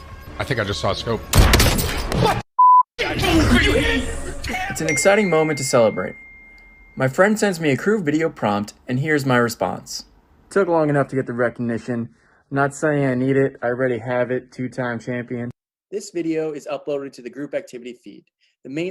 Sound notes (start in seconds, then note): 1.3 gun fires; 2.6 beep